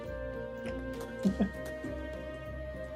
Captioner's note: laughs